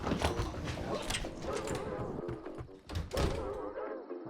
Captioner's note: door opening; door closing